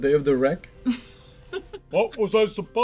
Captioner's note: laughter